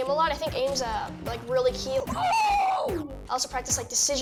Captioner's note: yells